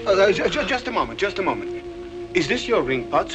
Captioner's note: stuttering